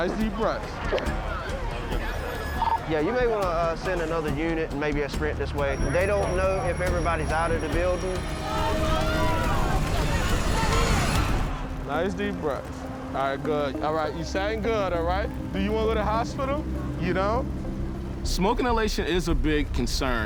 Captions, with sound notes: Nice deep breaths. Yeah, you may want to send another unit, and maybe a sprint this way. They don't know if everybody's out of the building. [crowd shouting] Nice deep breaths. All right, good. All right, you sound good, all right? Do you wanna go to the hospital? You don't? Smoke inhalation is a big concern,